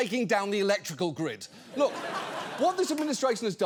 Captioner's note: audience laughs